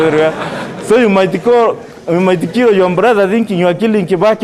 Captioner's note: laughter